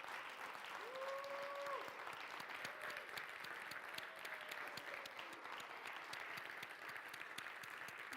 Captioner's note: clapping